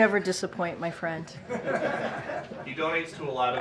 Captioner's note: laughter